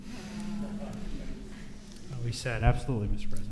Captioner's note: audience murmurs